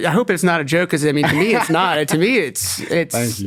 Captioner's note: laughs